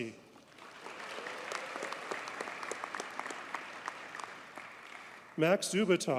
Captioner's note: audience cheers and applauds